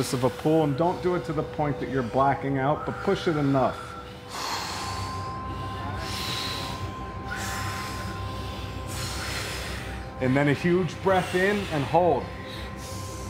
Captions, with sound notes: And don't do it to the point that you're blacking out, but push it enough. ( exhales ) ( all exhaling ) And then a huge breath in and hold.